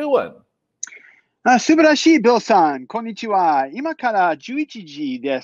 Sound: speaking foreign language

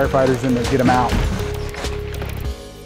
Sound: fire burning

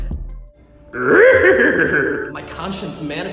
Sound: ambient Yoda noises

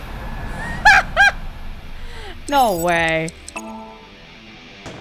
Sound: laughs

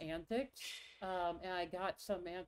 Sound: laughs

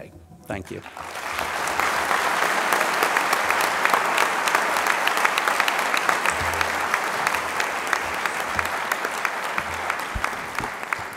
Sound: applause

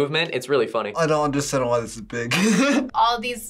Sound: laughs

